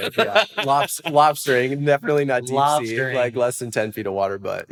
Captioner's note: laughs